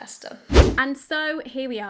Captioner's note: video swooshing